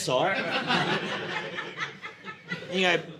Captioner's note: audience laughing